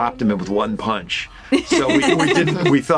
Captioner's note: laughing